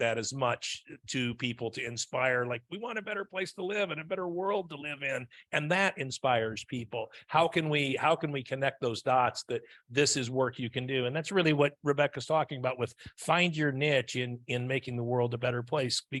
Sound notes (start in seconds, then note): none